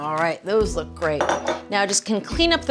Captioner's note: measuring cup clattering